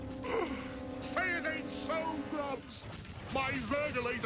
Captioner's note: gasps